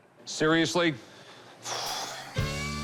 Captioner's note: sighs